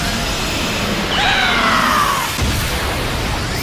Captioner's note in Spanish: Gritos